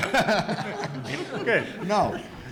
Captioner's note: audience laughs